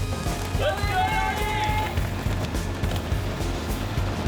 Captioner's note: cheering